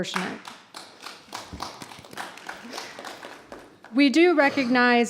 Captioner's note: applause